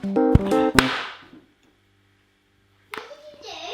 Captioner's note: crack